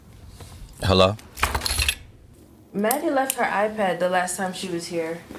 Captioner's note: keys dropping on table